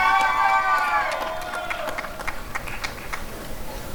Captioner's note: applause and cheering